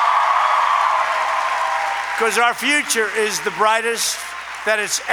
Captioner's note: applause